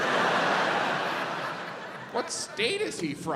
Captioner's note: audience laughs